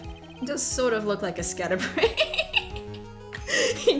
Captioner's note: laughs